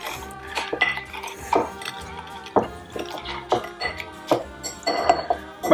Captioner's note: squishing sound and clinking of glass